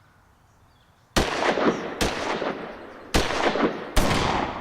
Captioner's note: gunshots